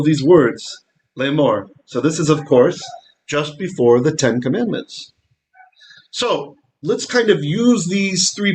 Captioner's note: Hebrew